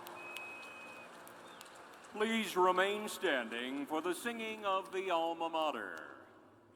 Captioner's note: cheers and applause